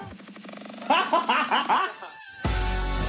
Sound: laughs

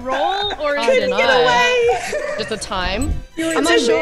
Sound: laugh

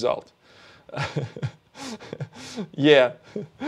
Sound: laughs

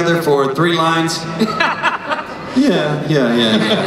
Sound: laughter

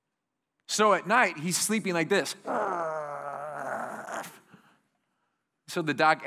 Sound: gritting teeth and groaning

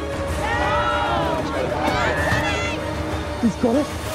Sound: cheering and yelling

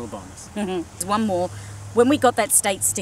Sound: giggles

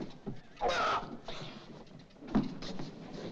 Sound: sounds of struggling; Charles grunts loudly; sounds of struggling

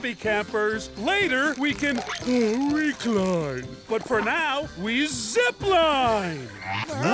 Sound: yawning

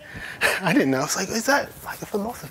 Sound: laughter

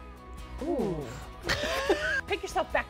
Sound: both laugh

